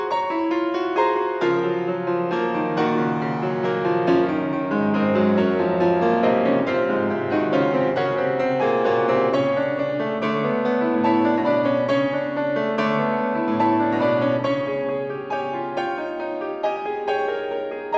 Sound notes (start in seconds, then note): none